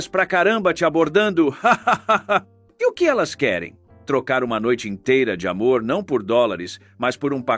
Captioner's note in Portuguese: risadas